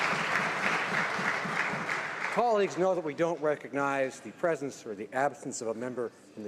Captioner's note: some Applause